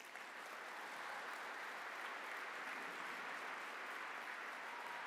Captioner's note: applause